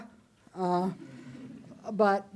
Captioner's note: audience chuckles